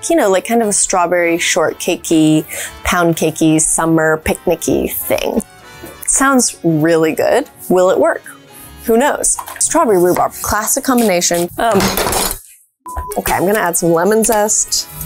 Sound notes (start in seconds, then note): 11.8 grater clatters; 14.8 lemon grating